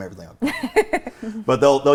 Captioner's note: laughs